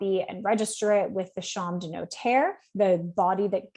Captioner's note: speaks French